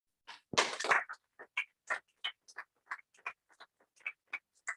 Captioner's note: applause